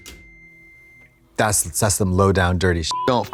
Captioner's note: beep